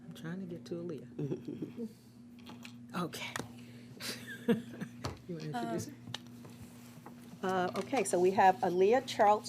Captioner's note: laughs